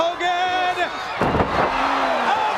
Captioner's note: crowd cheering